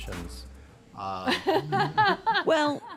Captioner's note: laughs